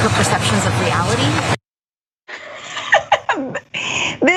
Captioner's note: laugh